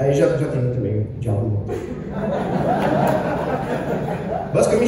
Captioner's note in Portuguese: Muitas risadas, aplausos leves